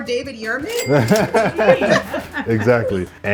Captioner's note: laughs then all laugh